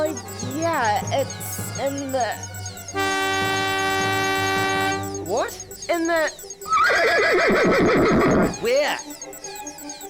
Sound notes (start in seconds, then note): 2.7 horn beeps; 6.7 horse whinnies